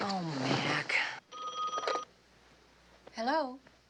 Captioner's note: phone ringing